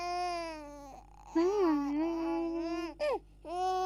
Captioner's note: humming